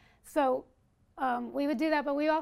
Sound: none

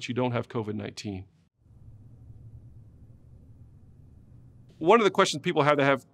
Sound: silence

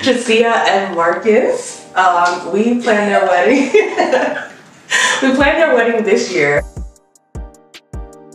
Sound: laughs

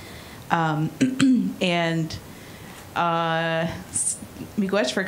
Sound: clearing throat

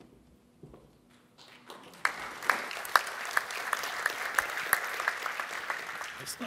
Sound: applause

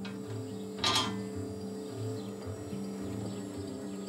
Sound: whirring

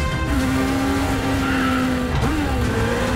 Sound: tires screeching

